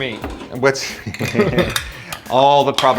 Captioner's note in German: lachen